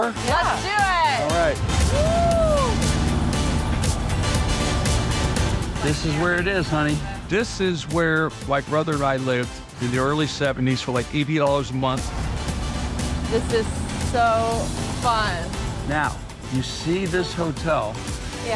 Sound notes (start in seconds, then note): 3.4 cab motor humming